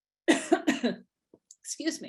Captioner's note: coughing